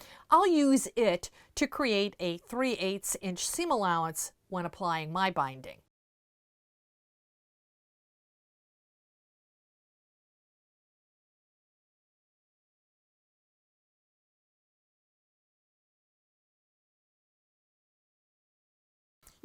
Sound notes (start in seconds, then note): 5.8 no Sound Present